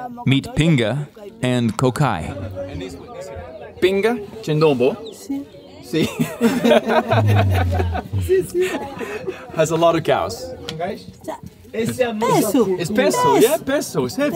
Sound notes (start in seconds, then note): 4.1 speaking in a foreign language; 6.2 all laughing; 8.4 speaking in a foreign language; 11.4 speaking in a foreign language